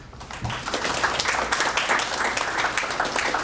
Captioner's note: applause